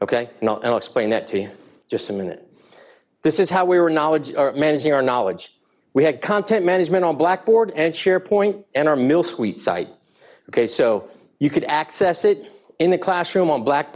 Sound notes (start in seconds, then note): none